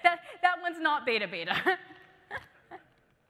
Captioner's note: laughing